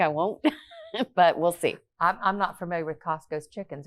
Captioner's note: laughs